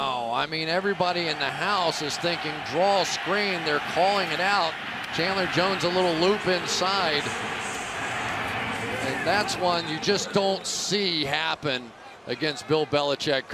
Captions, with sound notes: Wow, I mean everybody in the house is thinking draw screen. They're calling it out. Chandler Jones a little loop inside. [pa announcement] And that's one you just don't see happen against Bill